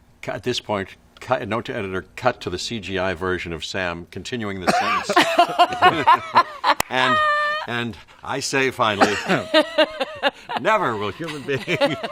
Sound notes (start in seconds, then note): 4.6 group laughs